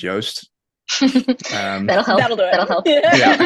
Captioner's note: laughing